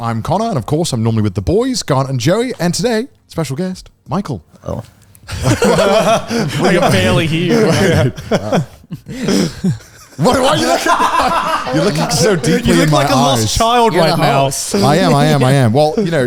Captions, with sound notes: I'm Connor, and of course I'm normally with the boys, Garnt and Joey. And today, special guest, Michael. - Hello. (all laughing) - We can barely hear you. - Why are you looking at me like that? You're looking so deeply in my eyes. - You look like a lost child right now. - I am, I am, I am.